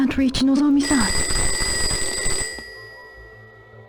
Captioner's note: phone rings